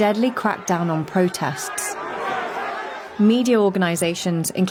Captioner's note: protesters clamoring